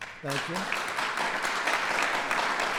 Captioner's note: applause